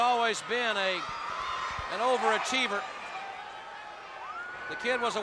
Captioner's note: crowd cheering